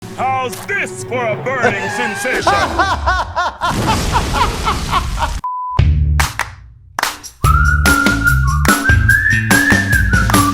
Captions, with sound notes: - How's this for a burning sensation? (laughing) (blasting) (beeping) (upbeat music)